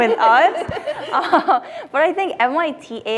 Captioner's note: laughter